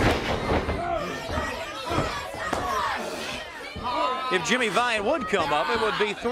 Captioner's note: crowd chatter